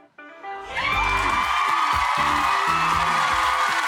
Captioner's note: upbeat music; crowd cheers